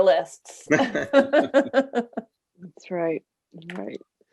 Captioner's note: both laugh